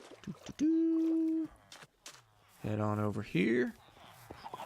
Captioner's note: humming